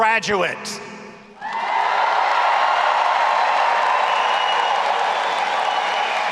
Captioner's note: audience applauding and cheering